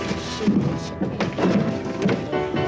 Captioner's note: shuffling; stomping